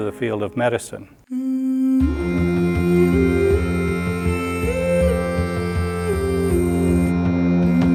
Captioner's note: woman humming; upbeat music